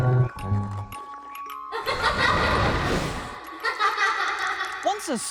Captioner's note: evil laughter